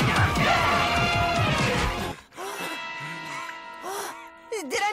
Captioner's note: fighting grunts; panting